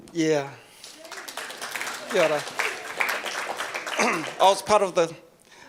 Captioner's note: audience applauds